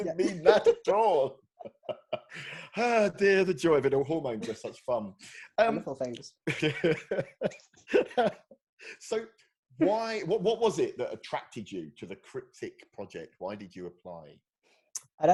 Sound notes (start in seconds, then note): 7.8 laughing